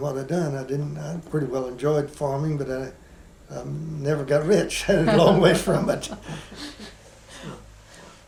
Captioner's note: laughter